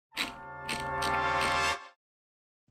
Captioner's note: wheel clicks